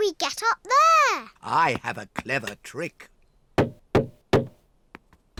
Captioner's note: knocks